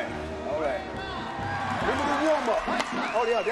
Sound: audience cheering

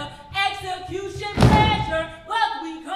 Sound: characters stomping

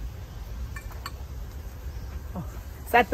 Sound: cup rattling

